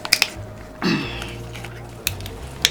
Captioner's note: clears throat